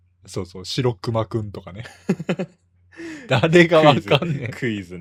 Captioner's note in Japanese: 笑い